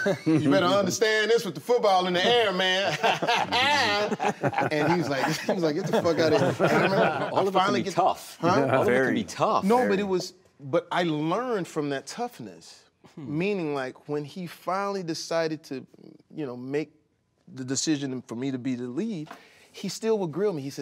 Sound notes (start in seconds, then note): 2.8 laughing